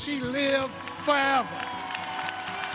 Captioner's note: cheers and applause